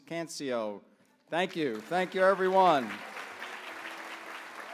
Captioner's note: applause